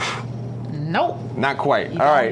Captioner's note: puffing